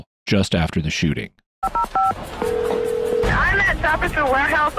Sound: phone ringing

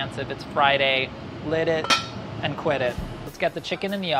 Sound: clanging

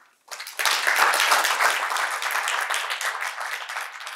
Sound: audience applauding

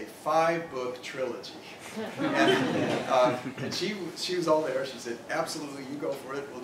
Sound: laugh

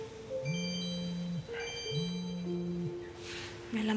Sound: cell phone rings

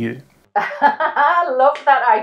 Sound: laughing

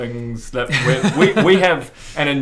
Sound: long-suffering laugh

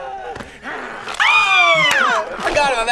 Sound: screams

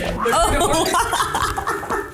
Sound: laughs

